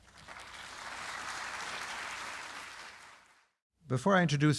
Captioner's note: audience applauding